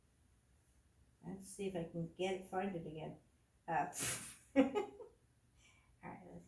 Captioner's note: giggles